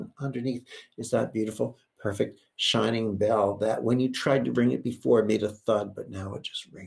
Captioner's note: none